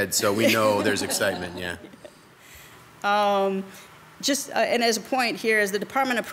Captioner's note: members laughs